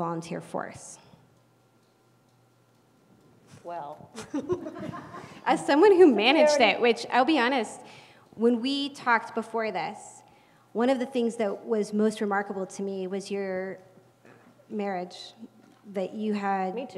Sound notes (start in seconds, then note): 4.2 laugh